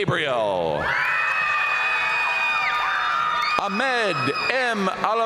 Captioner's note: audience cheering and applauding